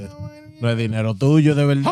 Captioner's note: non-english Speech